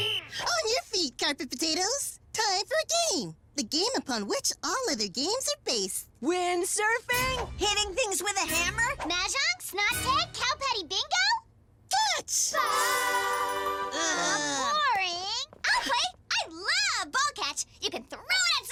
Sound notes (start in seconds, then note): 12.6 music sting; 13.9 disappointed groans